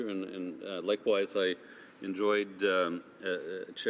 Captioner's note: speaking French